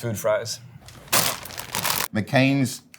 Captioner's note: plastic crinkling